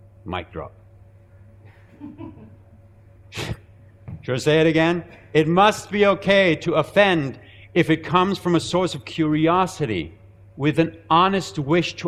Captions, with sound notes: Mic drop. (laughing) (chuckling) Should I say that again? It must be okay to offend if it comes from a source of curiosity, with an honest wish